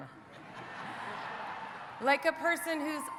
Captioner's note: audience laughing